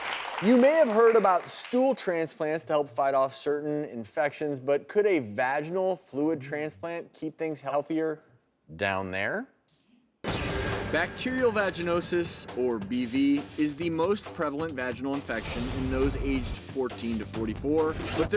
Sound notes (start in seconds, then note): 0.0 audience applauds; 9.8 explosive music